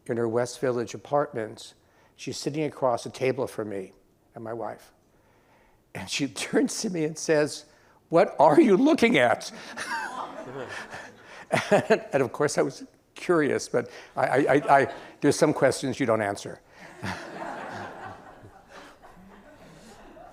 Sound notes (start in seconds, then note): 9.5 laughter; 16.8 laughs